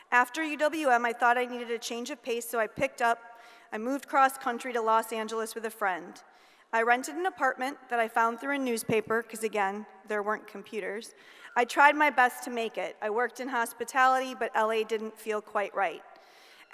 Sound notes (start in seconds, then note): none